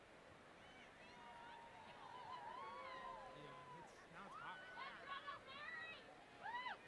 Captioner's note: graduates chattering indistinctly